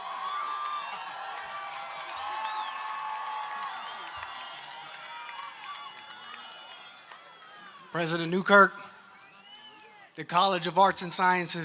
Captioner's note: applause